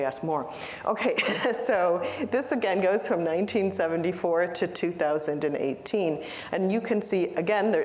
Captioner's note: laughter